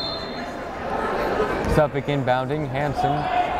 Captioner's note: whistle blowing